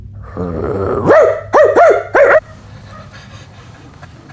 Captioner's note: barking; laughing